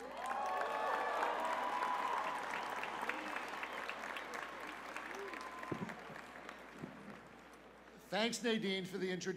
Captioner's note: applause